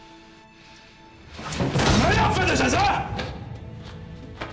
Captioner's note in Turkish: Tokat sesi